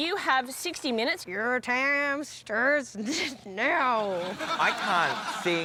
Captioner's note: drawls